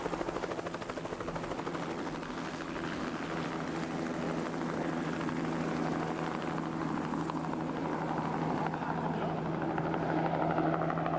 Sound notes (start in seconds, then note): 5.6 helicopter blades continue whirring